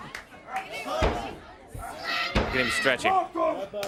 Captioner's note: crowd chatter